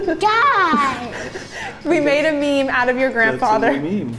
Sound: laughing off camera

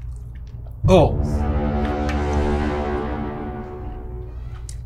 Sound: foghorn blowing

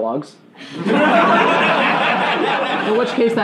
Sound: laughing

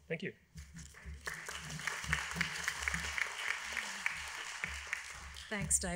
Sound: applause

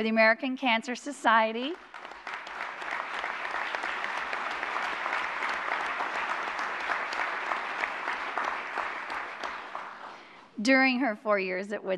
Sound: applause

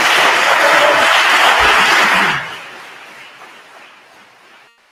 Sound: attendees continue applauding

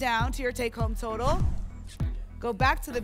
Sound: whoosh

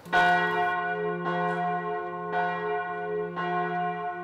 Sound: church bells ringing

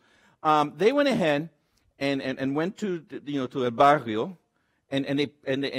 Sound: speaks Spanish

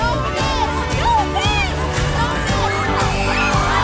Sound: kids screaming; kids cheering

